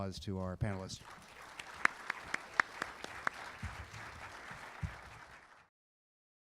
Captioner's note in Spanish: Aplausos